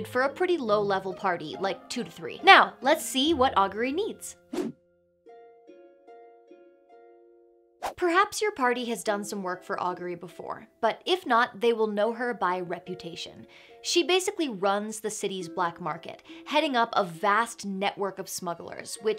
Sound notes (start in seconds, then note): 4.5 air whooshes; 4.5 soft music